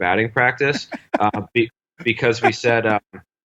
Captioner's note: laughs